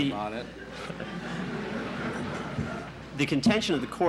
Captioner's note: laughter in the courtroom